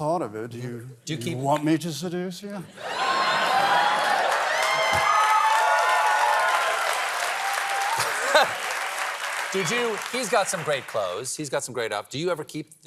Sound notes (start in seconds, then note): 2.7 laughter; 5.4 cheers and applause